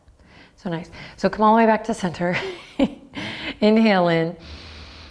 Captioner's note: laughs